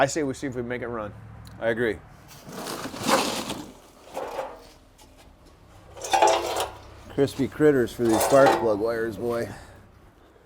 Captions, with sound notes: I say we see if we make it run. - I agree. (objects scrape) (metal scrapes) - Crispy critters for these sparks plug wires, boy.